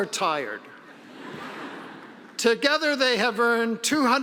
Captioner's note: audience laughing